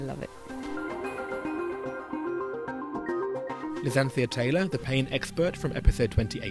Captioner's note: voiceover